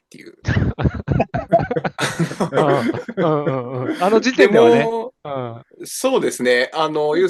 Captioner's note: laughter